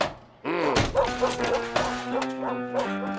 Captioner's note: dog whimpers